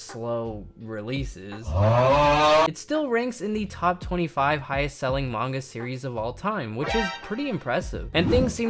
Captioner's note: dumb yell